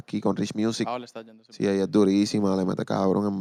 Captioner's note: speaking Spanish